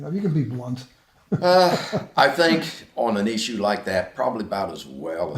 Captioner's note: laughs to self